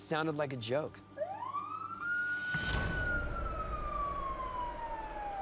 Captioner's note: sirens